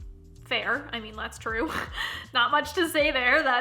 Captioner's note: chuckling